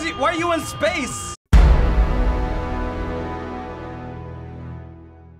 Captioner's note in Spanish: sonido dramático